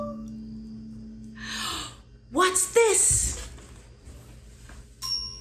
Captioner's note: gasp